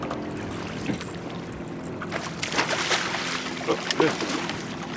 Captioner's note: fish splashing